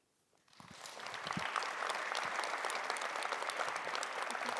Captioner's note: audience applauding